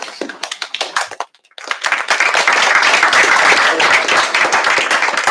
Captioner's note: applause